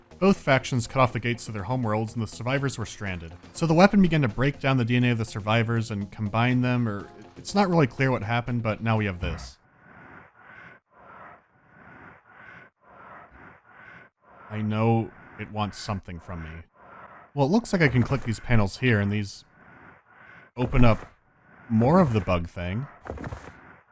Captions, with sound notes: Both factions cut off the gates to their homeworlds, and the survivors were stranded. So the weapon began to break down the DNA of the survivors and combine them, or… It’s not really clear what happened, but now we have this. [quiet huffing] I know it wants something from me… Well, looks like I can click these panels here, and these… open up… more of the bug thing…